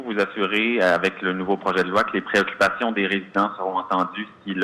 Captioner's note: speaks foreign language